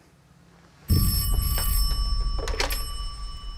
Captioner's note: telepon berdering